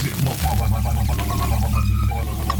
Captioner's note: static